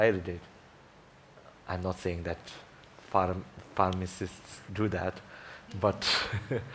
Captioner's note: laughs